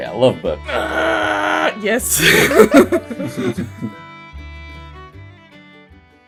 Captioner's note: laughter